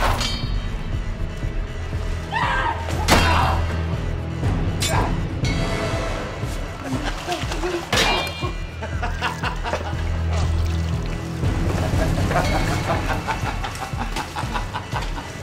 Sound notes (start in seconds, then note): 0.1 ax clanks; 0.1 suspenseful music; 3.0 ax clanks; 3.0 grunting; 7.9 ax clanks; 8.2 laughing